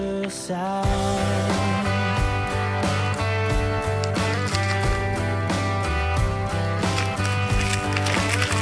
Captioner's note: crunching ice